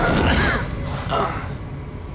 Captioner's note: groans